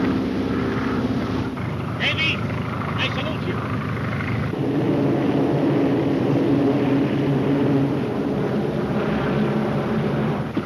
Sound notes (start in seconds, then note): 5.7 plane engines roar